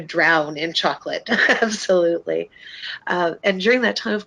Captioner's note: laughs